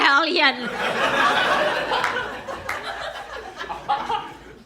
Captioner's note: audience laughs